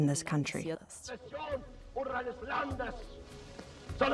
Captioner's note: Hitler gives speech in German